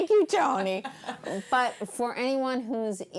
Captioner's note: laughing